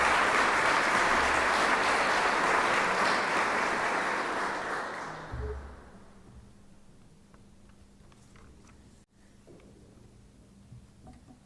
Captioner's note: applause